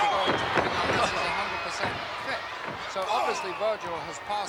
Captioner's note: blows thudding; body thudding